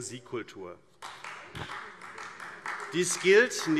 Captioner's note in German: Beifall AfD